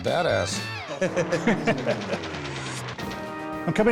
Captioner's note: both laugh